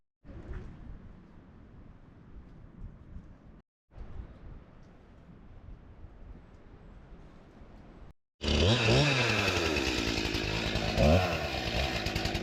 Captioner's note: wind blowing